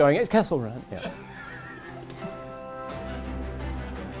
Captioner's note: man laughs; upbeat music